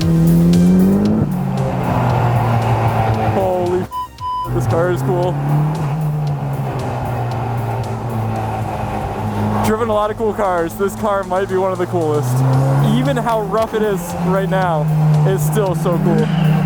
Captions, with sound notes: Holy (beep) this car is cool. Driven a lot of cool cars. This car might be one of the coolest. Even how rough it is right now it is still so cool.